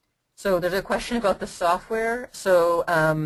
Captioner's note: voiceover